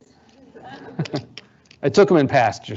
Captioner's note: audience laughs